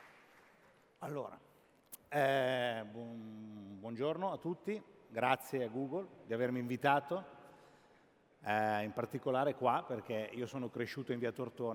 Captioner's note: speaking italian